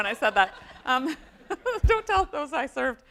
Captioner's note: audience laughs